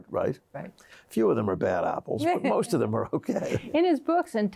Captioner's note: chuckles